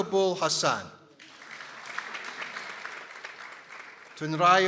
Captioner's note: people applauding